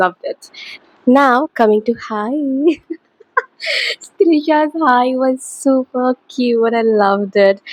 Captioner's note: laughter